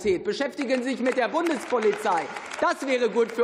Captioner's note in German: Beifall